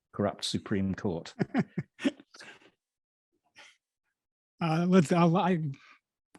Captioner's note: laughs